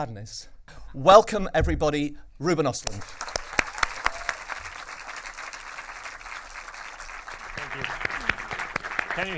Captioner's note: everyone claps